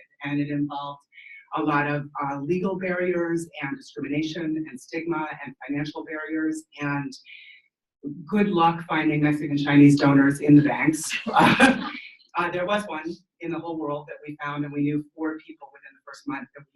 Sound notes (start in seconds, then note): 11.1 laughing